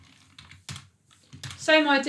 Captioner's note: keyboard clicking